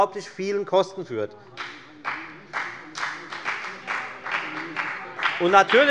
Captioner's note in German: Beifall bei der FDP